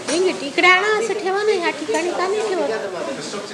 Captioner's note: mother speaks hindi